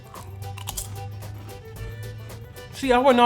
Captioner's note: chip crunching